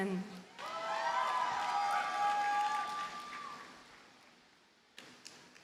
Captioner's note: audience cheers and applauds